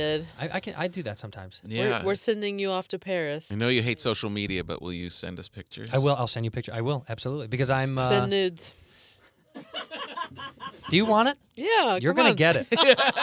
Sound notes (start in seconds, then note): 9.4 laughing